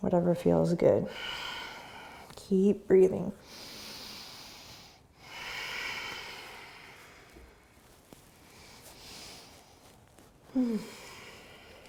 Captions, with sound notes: Whatever feels good. Keep breathing. (deep breathing)